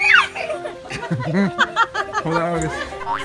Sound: laughter

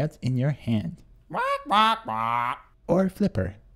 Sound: squawking

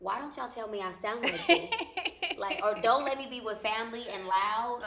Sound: laughs

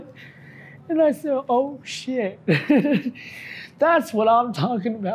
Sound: laughs

